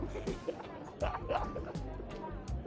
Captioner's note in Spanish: Risas